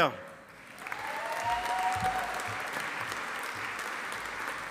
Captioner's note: audience applauding